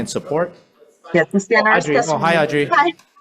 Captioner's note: overlapping chatter